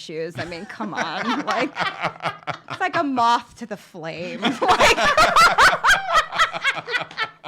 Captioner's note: laughs